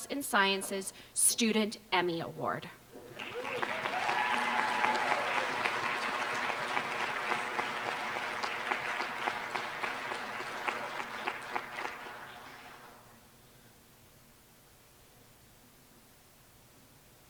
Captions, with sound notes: and Sciences Student Emmy award. [APPLAUSE]